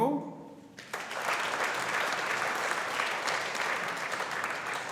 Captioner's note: audience applauding